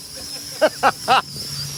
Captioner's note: laughs